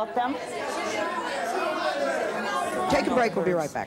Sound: audience clamors

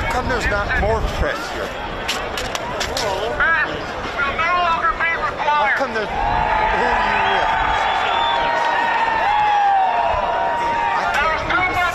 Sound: crowd noise

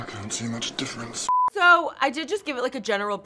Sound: TV beeps

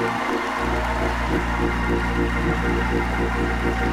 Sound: applause

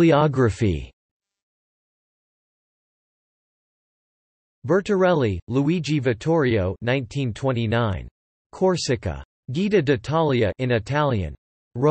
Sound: in Italian

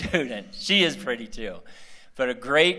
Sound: laughter

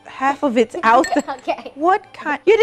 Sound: laughs

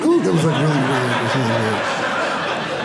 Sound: audience laughing

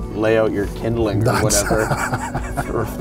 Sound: laughing

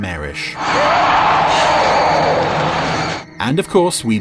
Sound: creature roaring

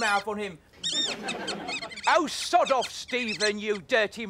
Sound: squeaking

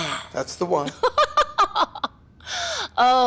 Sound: laughs mockingly

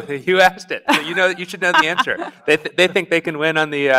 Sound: laughs

